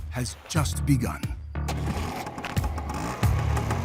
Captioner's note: scooter starts